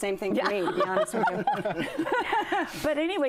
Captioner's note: laughter